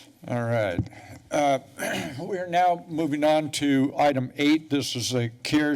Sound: clears throat

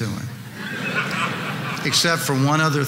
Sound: audience laughing

